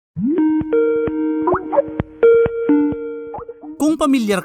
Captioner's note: Skype Call Sound